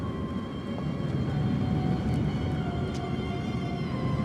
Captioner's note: kereta bergemuruh